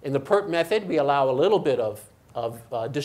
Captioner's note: none